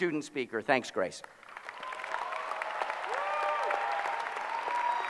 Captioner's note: applause